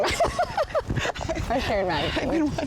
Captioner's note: both laugh